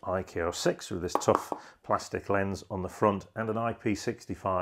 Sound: finger taps

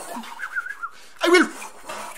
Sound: whistling noise

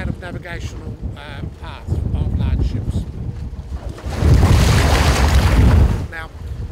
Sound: noise of waves splashing

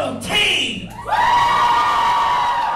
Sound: audience cheers

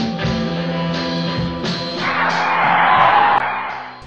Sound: car screech

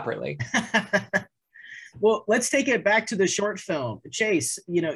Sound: laughing

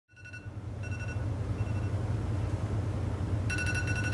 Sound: phone ringing

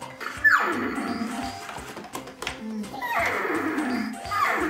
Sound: horse neighing

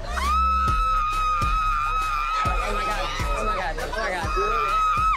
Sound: woman screaming

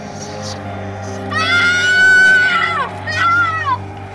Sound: screaming

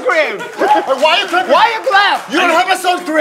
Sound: advertiser is clapping

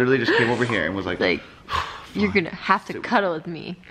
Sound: huff

